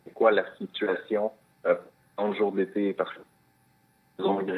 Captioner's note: speaking French